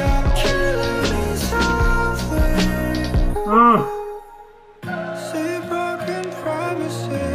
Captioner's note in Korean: 늑대 울음